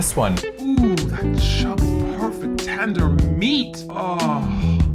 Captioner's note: "sexy" voice